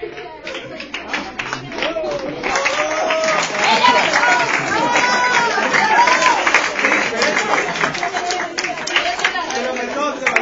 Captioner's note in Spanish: aplausos